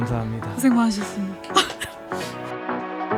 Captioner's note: laughs